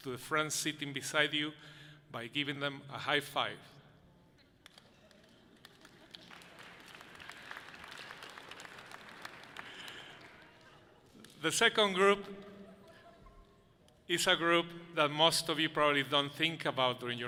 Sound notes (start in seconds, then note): 4.8 audience laughing softly; 6.8 audience clapping loudly